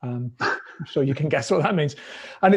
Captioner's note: laughs